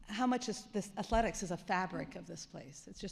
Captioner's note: none